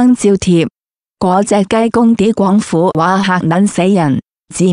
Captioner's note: Cantonese dialogue